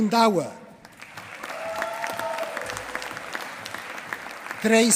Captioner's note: applause